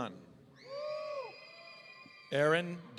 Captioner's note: audience cheering